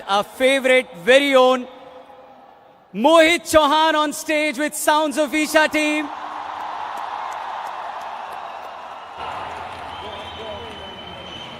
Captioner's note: cheering/Applause